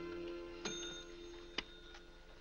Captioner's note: bell rings